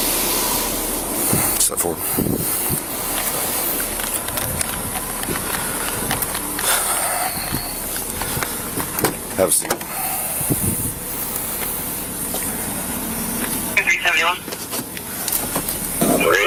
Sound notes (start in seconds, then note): 8.9 door clicks open